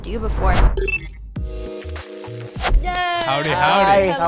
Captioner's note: electronic beeping